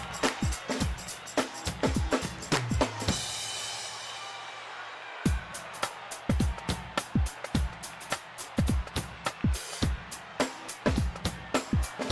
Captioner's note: crowd cheering